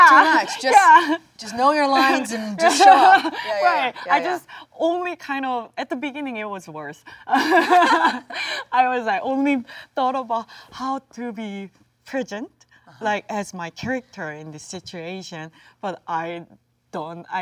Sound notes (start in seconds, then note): 7.3 both laugh